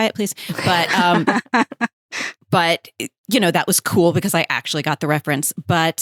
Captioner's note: chuckling